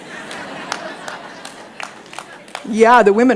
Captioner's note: laughter